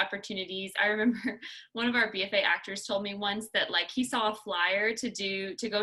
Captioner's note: laughter